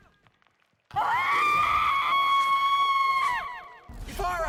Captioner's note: Ivara screams in pain